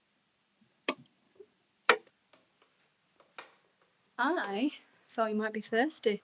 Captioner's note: switch clatters